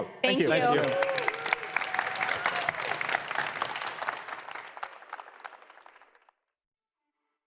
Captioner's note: applause